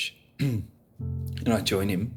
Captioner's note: clears throat